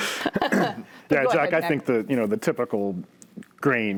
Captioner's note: laughs